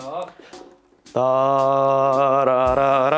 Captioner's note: humming